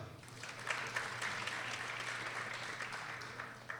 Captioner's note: people applauding